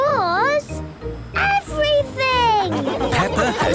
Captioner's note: laughing